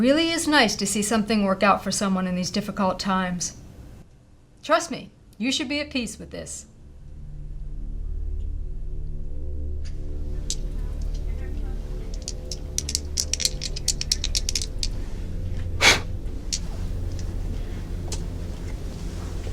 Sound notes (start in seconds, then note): 8.5 dramatic music; 8.5 object rustling; 15.8 man blows